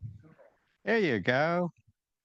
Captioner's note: participant speaks faintly